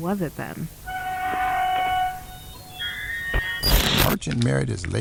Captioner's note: rusted gate opens